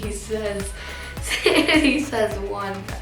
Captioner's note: laughs